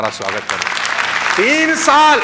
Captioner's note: rounds of applause